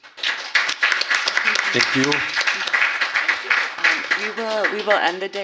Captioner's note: applause